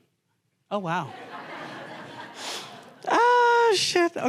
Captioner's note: laughter